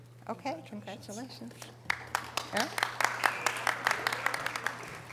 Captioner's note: audience applause